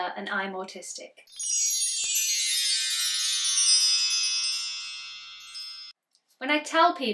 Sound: wind chimes sound

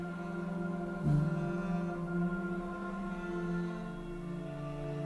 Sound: humming

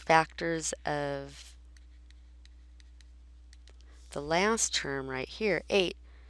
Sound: pause

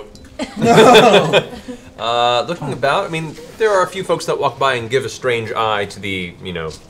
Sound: laughs

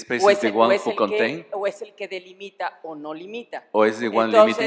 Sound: speaking spanish

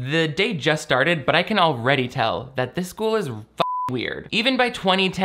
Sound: beep

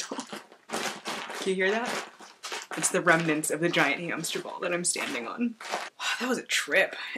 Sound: crinkling

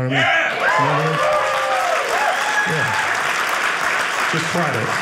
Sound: audience cheering

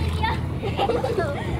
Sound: giggles

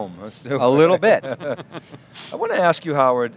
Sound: laughter

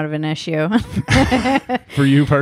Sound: laughing

